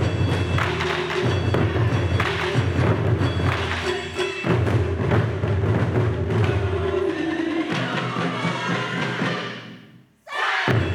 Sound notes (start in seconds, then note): 6.6 instrumentalists shouting